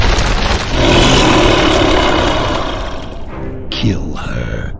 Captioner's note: explosion booming; creature roaring